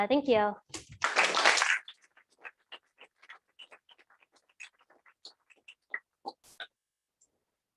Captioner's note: applause